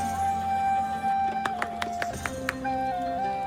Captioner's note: claps